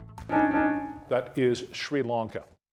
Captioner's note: buzzer beeping